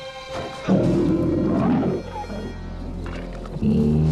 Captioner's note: low tense music; bear roars; bear growls